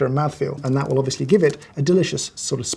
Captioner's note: ominous typing